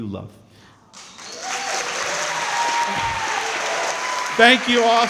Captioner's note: crowd clapping & cheering